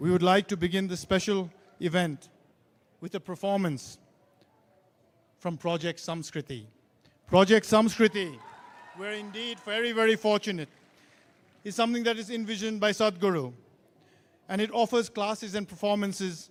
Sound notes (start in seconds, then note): 7.9 cheering/Applause